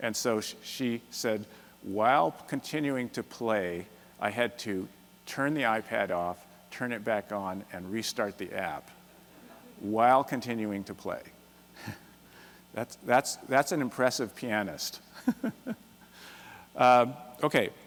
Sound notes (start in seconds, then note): 9.4 laughter; 11.8 chuckles; 15.2 laughs